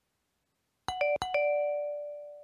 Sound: door bell rings

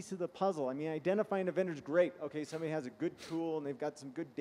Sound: sniffing

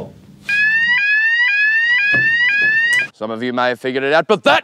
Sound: fire alarm blares

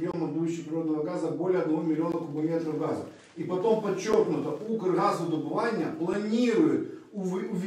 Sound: voice-over

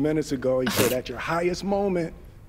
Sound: laughs

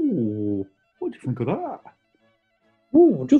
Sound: dopey voice

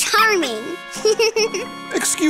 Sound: giggling

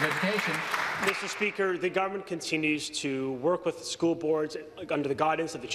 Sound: applause

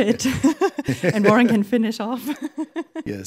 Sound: laughs

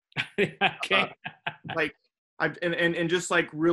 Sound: laughing

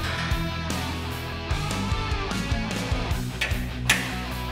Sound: upbeat rock music continues; metal clinking

